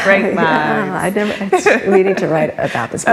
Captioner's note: laughs